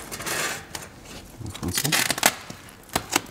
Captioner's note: snapping noises